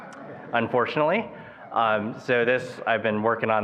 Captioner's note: attendees laughing